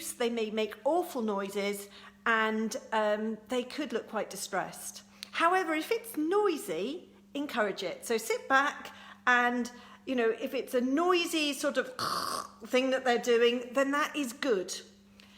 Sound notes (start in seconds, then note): 12.0 gags